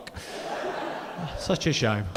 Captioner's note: audience laughing